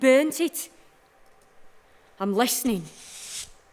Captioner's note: we hear the sound of a sweeping brush